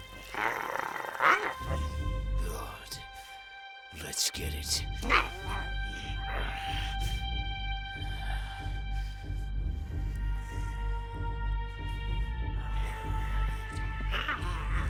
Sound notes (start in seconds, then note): 4.6 Giree grumbles; 6.4 tense music